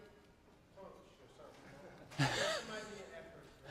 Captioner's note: speaks off microphone